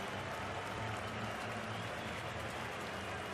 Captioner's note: crowd cheering